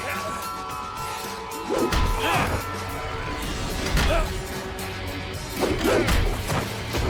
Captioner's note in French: Zhou grogne